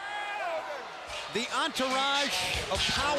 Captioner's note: crowd cheering